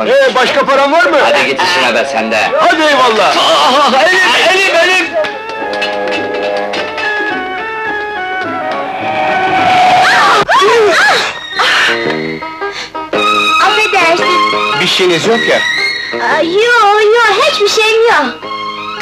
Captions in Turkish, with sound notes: - Başka paran var mı? - Hadi ,git işine be sen de! - Hadi eyvallah! - Ah, ay, elim, elim! [Motor ve fren sesi, çığlıklar] Af edersin! Bir şeyiniz yok ya? Yok, yok, hiç bir şeyim yok!